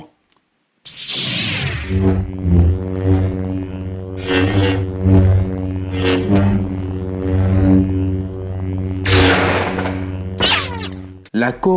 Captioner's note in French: Sabre Laser Effets sonores